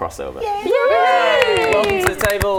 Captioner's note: cheering